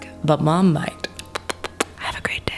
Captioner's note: kissing